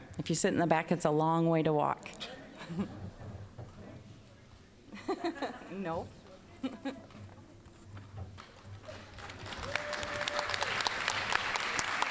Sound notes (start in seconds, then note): 2.6 audience chuckling; 8.8 applause